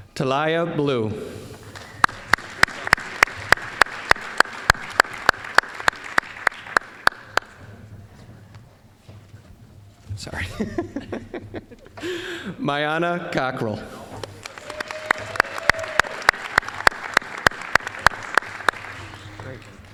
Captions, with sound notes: >> Talaya Blue. (applause) Sorry. (laughing) Myyana Cockrell. (applause)